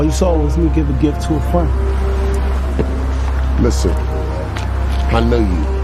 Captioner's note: voiceover